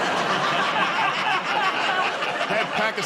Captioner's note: laughter